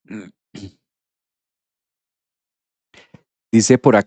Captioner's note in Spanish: carraspeo